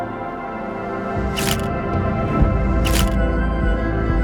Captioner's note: camera shutter repeats - schuck - schuck - schuck; faster, optimistic upbeat notes